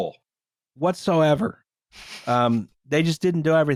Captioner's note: laughs nearly silently